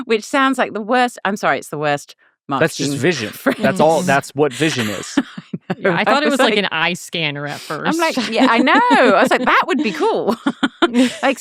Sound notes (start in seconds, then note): 4.4 laughing